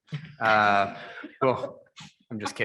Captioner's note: members laughing